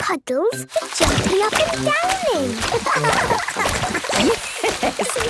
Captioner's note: laughing; Madame Gazelle laughing